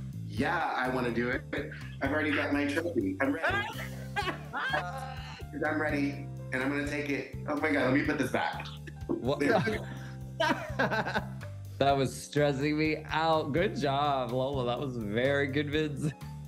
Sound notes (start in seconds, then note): 3.6 all laughing; 10.4 Alaska laughs